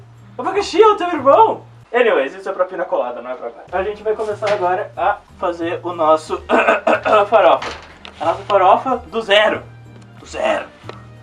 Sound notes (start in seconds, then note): 6.5 ahem